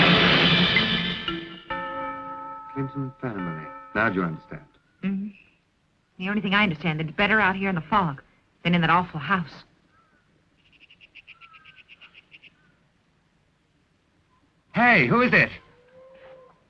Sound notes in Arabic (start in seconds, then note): 1.9 رنين الجرس